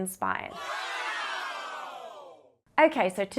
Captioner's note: audience cheering